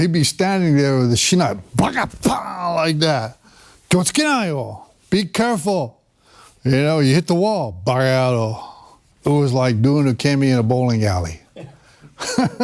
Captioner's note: laughter